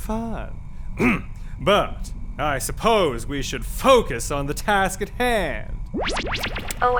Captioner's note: clears throat